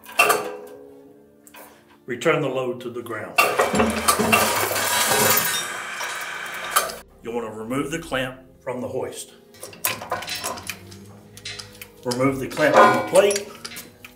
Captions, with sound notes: Return the load to the ground. (chain jangling) (machine whirring) You want to remove the clamp from the hoist. Remove the clamp from the plate